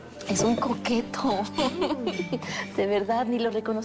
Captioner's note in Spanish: Risas